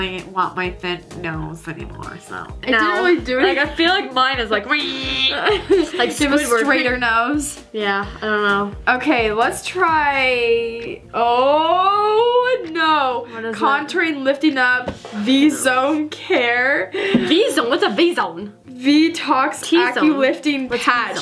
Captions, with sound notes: want my thin nose anymore. It didn't really do anything. - I feel like mine is like (squeals). - You have a straighter nose. - Yeah, I don't know. - Okay, let's try... Oh no! Contouring lifting up v zone care. - V zone? What's a v zone? - V-Tox aculifting patch.